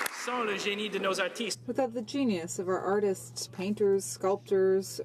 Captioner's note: applause